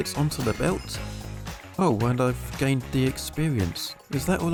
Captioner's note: sounding confused